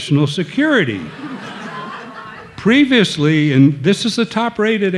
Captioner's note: audience laughing